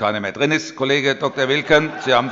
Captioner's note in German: Heiterkeit